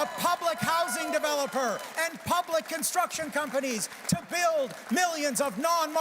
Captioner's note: applause